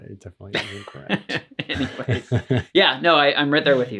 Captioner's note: laughs